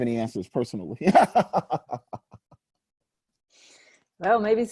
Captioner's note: laughing